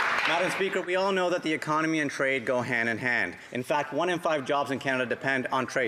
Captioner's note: some Applause